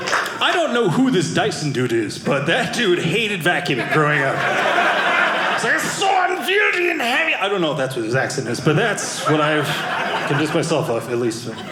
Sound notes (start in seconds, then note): 5.1 Scottish accent